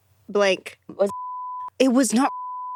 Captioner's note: beep